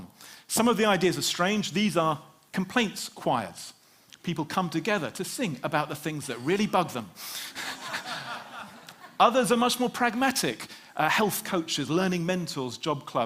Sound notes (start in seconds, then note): 7.4 Laughter